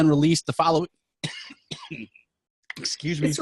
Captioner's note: coughing